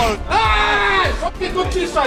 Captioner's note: yells